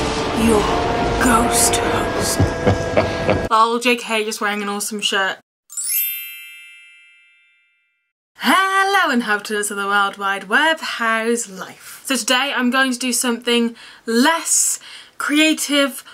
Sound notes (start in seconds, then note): 2.6 evil laughter